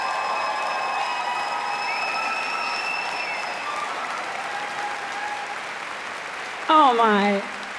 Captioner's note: applause